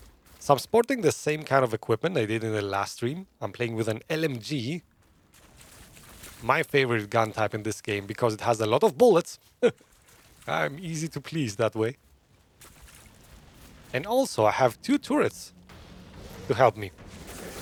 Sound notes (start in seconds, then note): 9.6 laughs